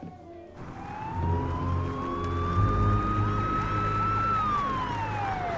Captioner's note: sirens wailing